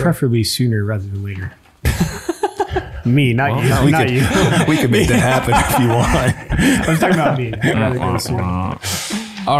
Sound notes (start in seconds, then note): 1.8 chuckles; 6.2 chuckles